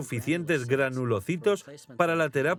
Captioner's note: murmuring